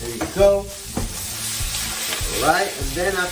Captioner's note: shrimp sizzling